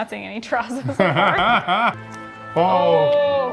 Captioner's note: laughing